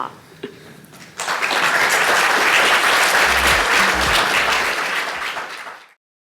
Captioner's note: applause